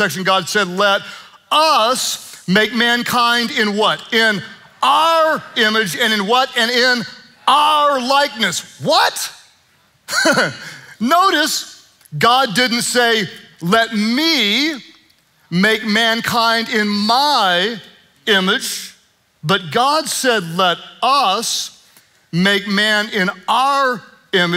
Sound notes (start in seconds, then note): 10.1 chuckling